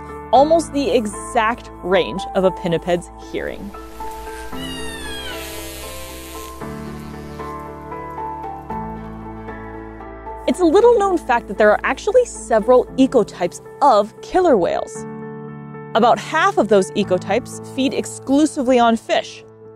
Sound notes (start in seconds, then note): 3.8 background music; 3.8 echolocation sounds